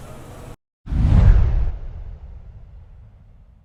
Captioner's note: logo whooshing